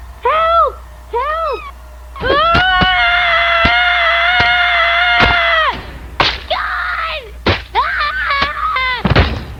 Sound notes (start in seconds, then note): 2.2 screaming